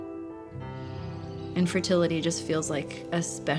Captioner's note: birds chirping